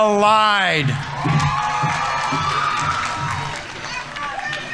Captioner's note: audience members cheering; audience applauding